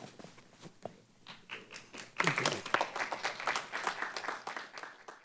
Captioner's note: applause